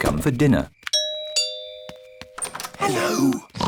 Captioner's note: rings doorbell; oinks